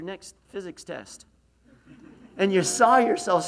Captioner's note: laughs